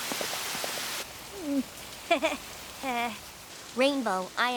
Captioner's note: gulps, laughs nervously